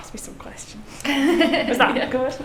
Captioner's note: laughs